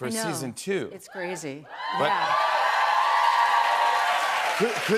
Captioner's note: cheers and applause